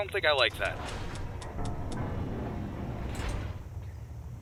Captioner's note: blast Doors Open